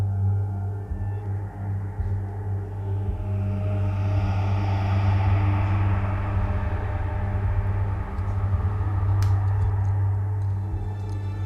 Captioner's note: whisper